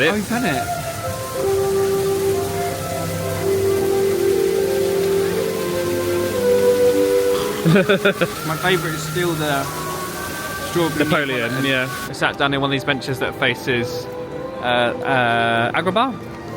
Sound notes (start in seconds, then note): 2.3 soft music; 7.3 laughing